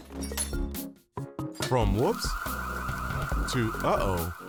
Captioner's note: fire alarm blaring